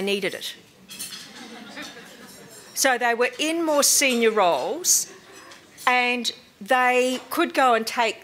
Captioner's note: laughter